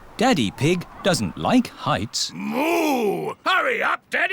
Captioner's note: speaking Chinese